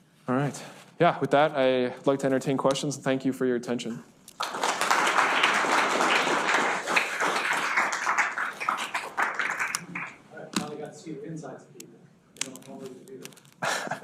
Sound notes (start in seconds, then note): 4.3 students clapping; 13.6 laughs